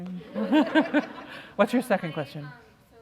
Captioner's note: laughter